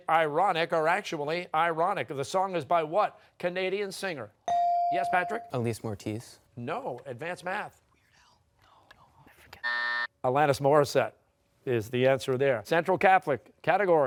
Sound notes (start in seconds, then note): 8.3 buzzing